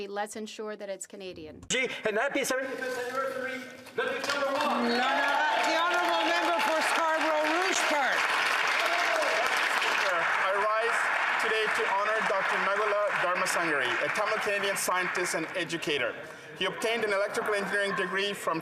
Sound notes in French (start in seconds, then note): 6.7 voix de l'interprète; 7.9 applaudissements; 10.0 voix de l'interprète